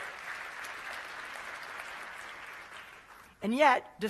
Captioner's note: applause